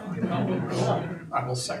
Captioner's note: audience laughing